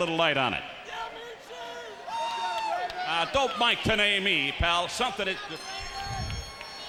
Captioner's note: applause